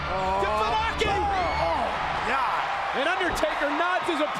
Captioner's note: crowd cheers wildly